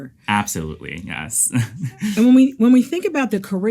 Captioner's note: laughs